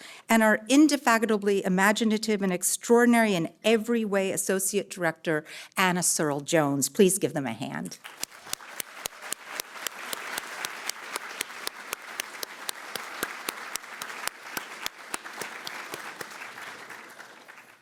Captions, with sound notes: and our indefatigably imaginative and extraordinary in every way Associate Director, Anna Searle Jones. Please give them a hand. [APPLAUSE]